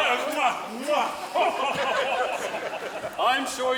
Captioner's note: laughing